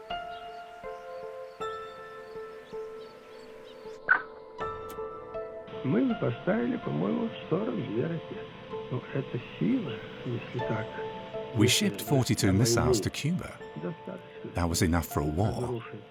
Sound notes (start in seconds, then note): 5.8 speaking Russian